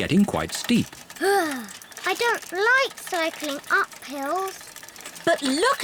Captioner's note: groans